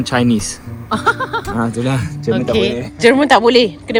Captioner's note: laugh